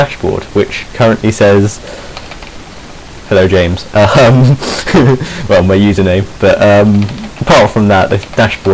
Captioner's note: he snickers